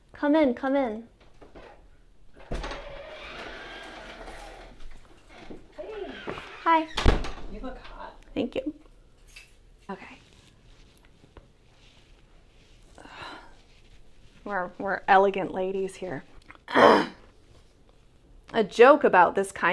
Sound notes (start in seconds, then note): 2.3 door opens; 10.9 neck cracks; 16.6 clears throat